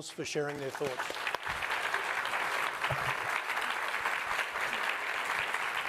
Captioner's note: attendees applauding